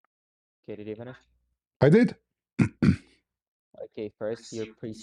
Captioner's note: clears throat